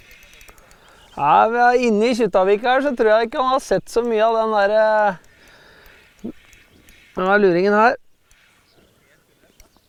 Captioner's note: giggles